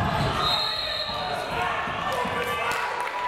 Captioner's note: whistle